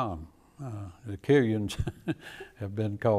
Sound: chuckles

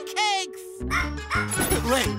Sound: laughs; robotic barking

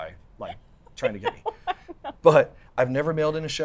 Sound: laughs

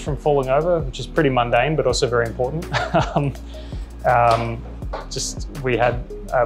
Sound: laughs

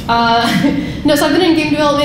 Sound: laughing

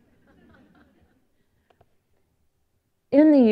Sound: laughter

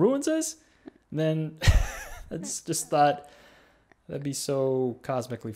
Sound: laughs

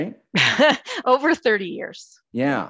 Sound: chuckling

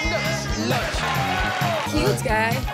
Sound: crowd cheering

